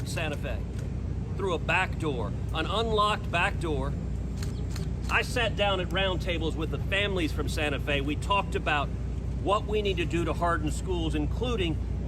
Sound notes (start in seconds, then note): none